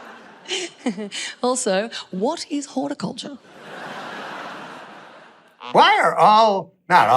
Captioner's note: crowd laughs